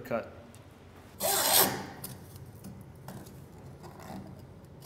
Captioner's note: saw scraping